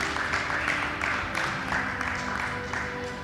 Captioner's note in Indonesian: tepuk tangan